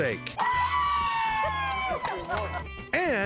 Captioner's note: cheering